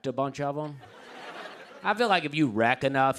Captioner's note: laughter